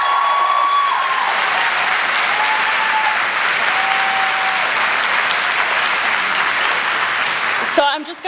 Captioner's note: applause